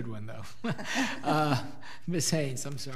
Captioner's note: laughs